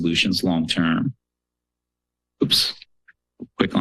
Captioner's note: pause